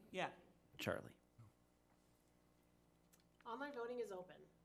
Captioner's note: speaking faintly